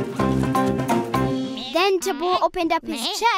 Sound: bleating

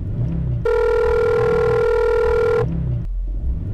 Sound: phone rings

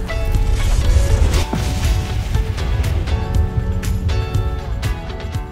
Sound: upbeat guitar music; loud explosion

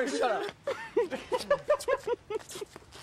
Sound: laughter

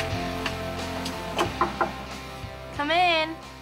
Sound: knocking

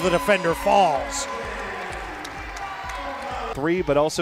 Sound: cheering

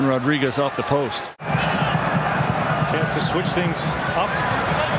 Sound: crowd Noise

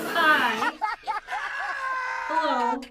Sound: canned laughter

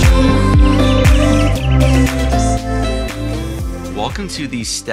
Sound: birds chirping

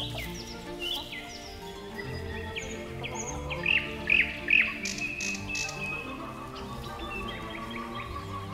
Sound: walking through dry grass

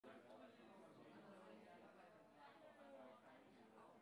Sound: muffled chatter

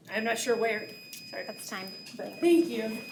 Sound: timer beeps

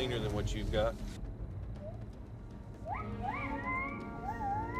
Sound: gibbons whooping over speaker

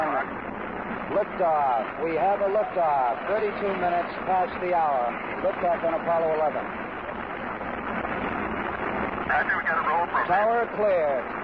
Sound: Sound of the Apollo 11 lift off

